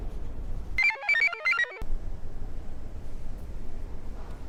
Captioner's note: computer chirps